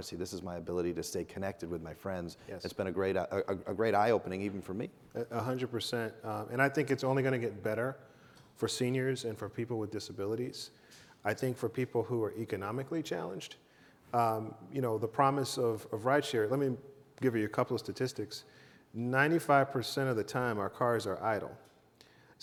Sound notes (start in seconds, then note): none